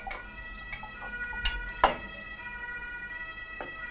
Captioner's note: Martinshorn in the background